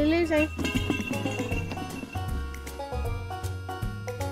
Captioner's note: bells jingling